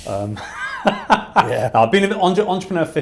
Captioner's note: laughing